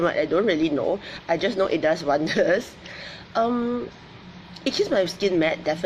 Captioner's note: laughs